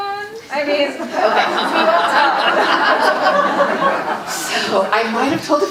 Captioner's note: audience laughing